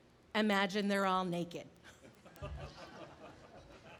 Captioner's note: laughing